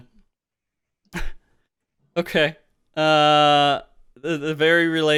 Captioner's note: laughs